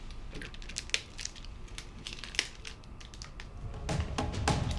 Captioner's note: package crinkles